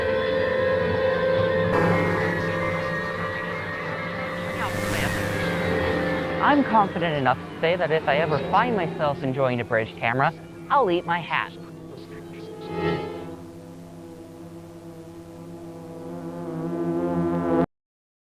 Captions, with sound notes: [INTENSE MUSIC] [STATIC] I'm confident enough to say that if I ever find myself enjoying a bridge camera, I'll eat my hat.